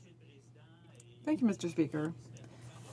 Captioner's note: speaking french